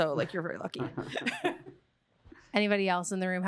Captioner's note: chuckles